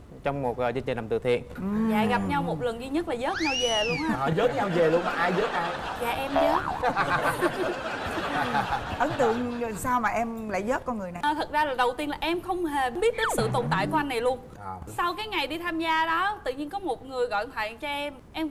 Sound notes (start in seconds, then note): 6.8 laughing